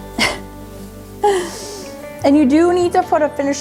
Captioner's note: laughs